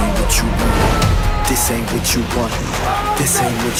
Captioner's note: yelling